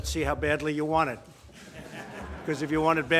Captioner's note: laughter